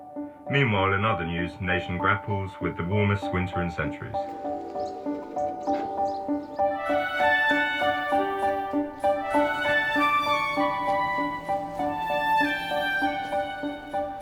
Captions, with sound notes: Meanwhile, in other news, nation grapples with the warmest winter in centuries. (birds chirping) (cheerful music)